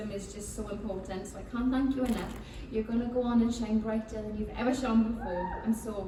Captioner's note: cheering